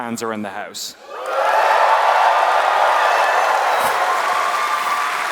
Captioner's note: applause